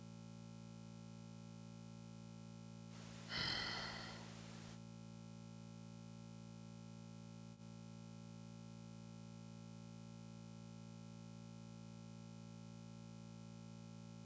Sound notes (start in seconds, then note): 3.0 heavy Breathing; 3.0 more Breathing